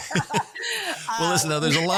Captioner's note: laugh